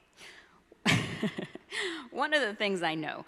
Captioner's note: laughs